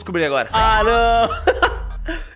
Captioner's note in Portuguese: risos